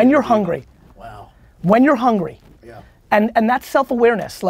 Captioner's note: pat